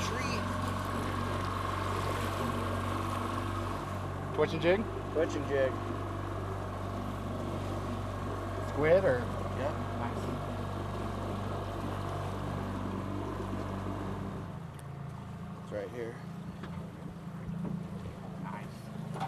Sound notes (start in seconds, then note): 7.5 boat engine running; 13.5 boat engine running